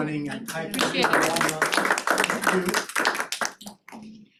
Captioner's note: applause